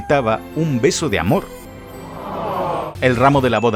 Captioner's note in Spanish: multitud